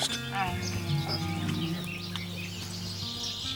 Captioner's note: bear moans